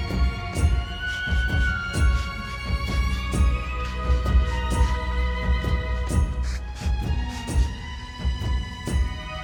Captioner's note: spritzing continues